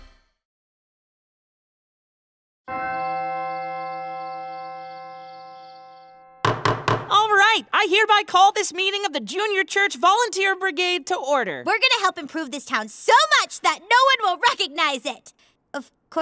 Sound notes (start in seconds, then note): 2.7 bells chime; 6.4 gavel pounding